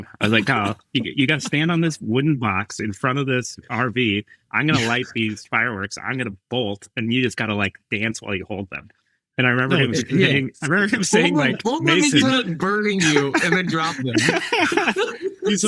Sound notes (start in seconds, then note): 9.6 all chattering; 14.5 all laughing